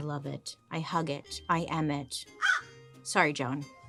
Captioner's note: Joan caws